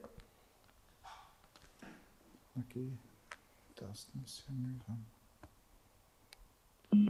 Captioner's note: silence